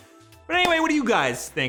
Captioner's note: claps